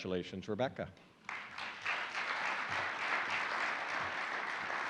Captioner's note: applauding audience